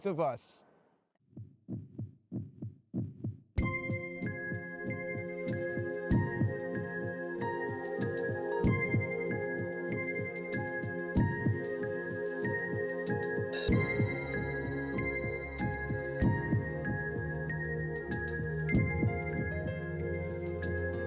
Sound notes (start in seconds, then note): 3.4 sound of a heart beating; 6.1 closing Music Playing